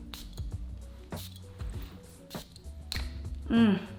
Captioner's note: aerosol spritzing